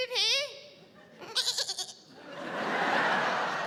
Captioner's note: mimics baaing